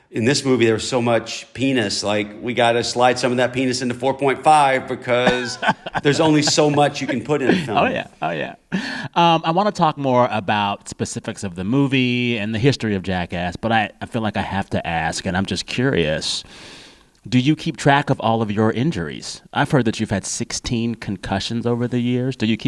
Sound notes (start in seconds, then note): 8.9 laughter